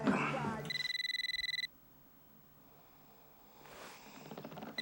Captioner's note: phone ringing